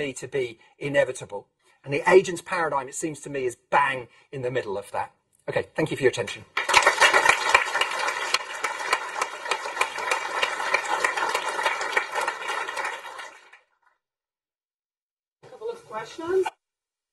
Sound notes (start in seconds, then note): 6.3 applause